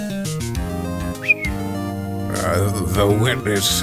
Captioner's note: Polly whistles